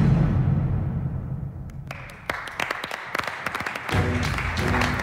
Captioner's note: applause